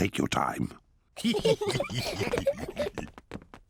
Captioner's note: all giggle